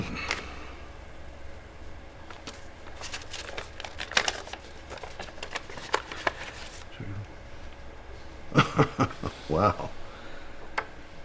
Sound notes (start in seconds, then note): 2.2 envelope rustling; 8.5 chuckles